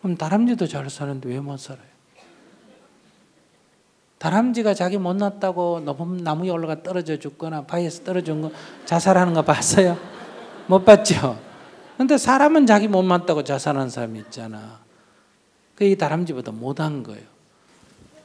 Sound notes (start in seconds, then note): 10.2 audience laughs